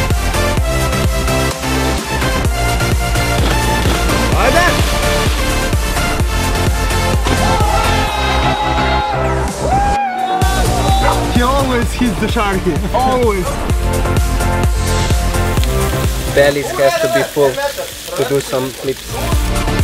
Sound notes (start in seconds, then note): 15.1 sizzling sound